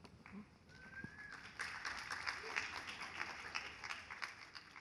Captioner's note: audience applauding